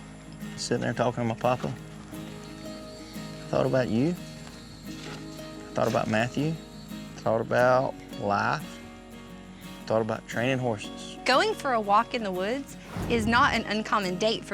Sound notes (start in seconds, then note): none